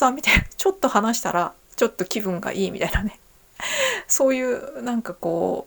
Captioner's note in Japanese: 息をのむ音